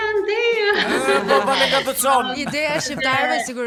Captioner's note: laugh